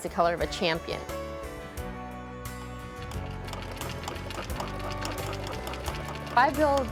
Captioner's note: sewing machine